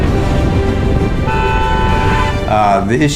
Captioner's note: honking